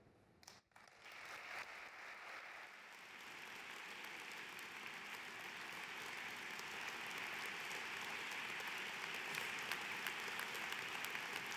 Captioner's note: applause